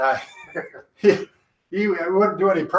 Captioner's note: both chuckle